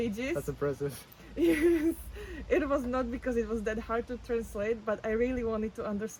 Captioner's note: laughs